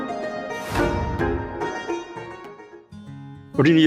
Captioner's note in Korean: 화면 전환되는 소리